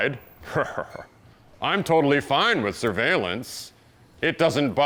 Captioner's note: chuckles